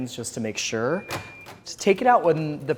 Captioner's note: beeping